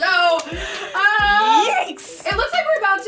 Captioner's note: laughing